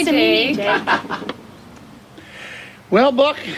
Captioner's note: Jake laughs